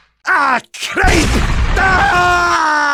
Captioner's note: boom